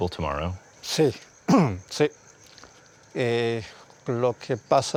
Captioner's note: speaking Spanish